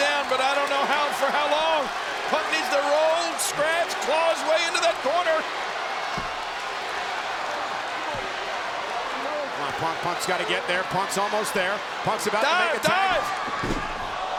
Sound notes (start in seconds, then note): 5.9 crowd chants "CM Punk"